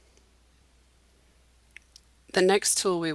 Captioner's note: silence